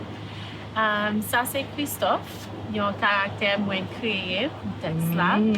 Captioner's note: speaking in Creole; person speaking in Creole